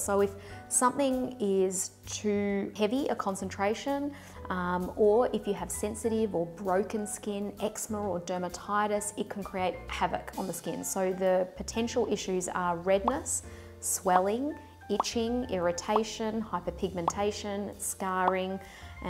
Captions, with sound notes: So if something is too heavy, a concentration, or if you have sensitive or broken skin, Eczema or Dermatitis, it can create havoc on the skin. So the potential issues are redness, (popping) swelling, itching, irritation, hyperpigmentation, scarring